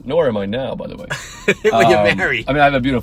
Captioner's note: laughing